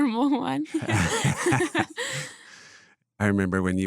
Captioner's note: laughs